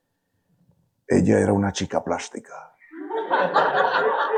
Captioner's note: speaking in foreign language; audience laughing